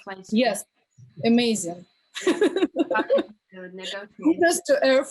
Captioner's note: chuckles